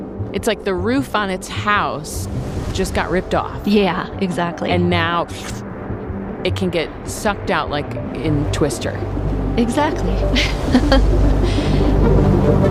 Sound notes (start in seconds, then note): 10.3 laughs